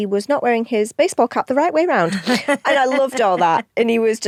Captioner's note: laughs